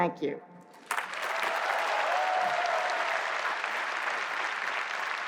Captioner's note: applause